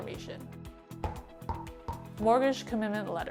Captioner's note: bouncing